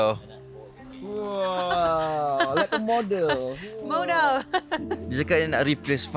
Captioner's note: laugh